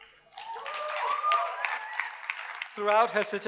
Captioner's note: audience cheers and applauds